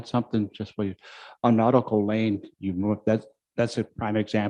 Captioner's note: murmurs